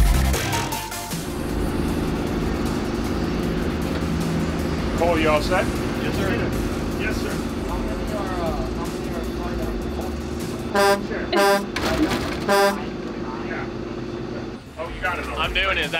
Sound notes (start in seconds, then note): 1.1 hydraulic lift whooshes; 10.4 truck horn signals three times